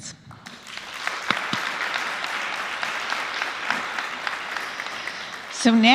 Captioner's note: applause